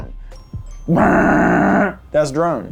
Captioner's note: buzzing